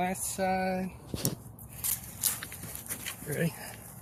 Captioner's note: feet rustling the rocks